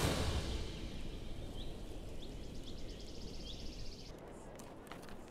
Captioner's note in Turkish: Kuş cıvıltısı sesi